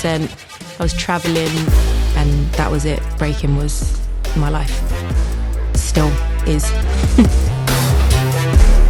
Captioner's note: laughs